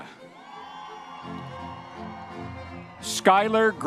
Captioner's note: audience members cheering